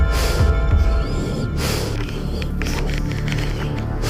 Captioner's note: heavy breathing